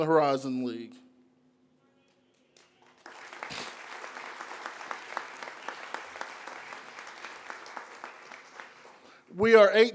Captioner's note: applause